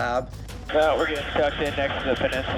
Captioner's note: man Over Radio